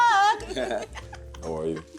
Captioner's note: chuckles